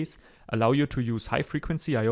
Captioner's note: breathe